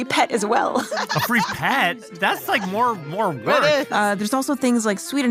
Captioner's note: laughs